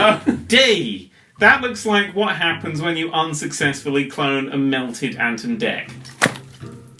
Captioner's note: book slams down